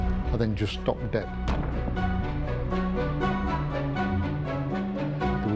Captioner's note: object thuds